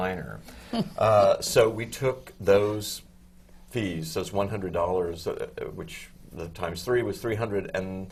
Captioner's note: laughs